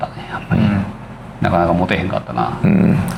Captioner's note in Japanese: 咳払い